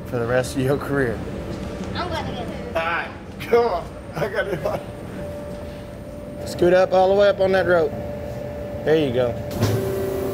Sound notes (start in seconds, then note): 4.2 laughs